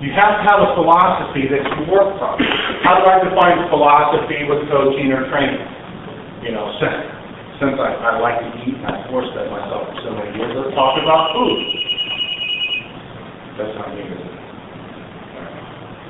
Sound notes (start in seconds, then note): 10.7 phone ringing